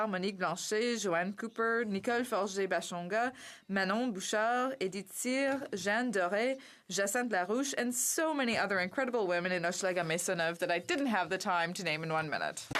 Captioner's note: speaking French